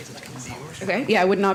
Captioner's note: indistinct conversation